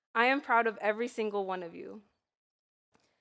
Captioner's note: none